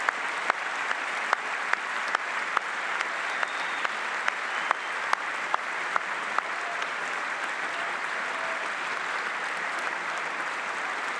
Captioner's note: applause